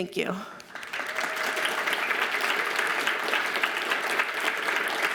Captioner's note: audience applauds